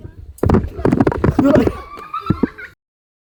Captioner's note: kids laugh